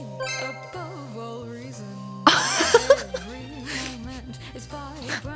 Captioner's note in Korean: 웃음